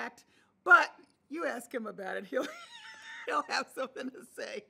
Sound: laughing

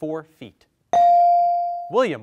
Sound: bell dings

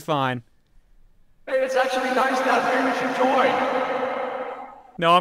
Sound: echo

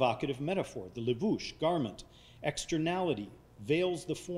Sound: speaking foreign language

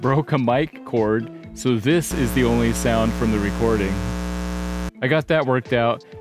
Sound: electrical Buzzing

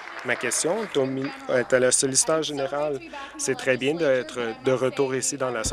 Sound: applause

